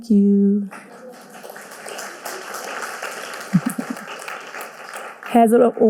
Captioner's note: audience applauding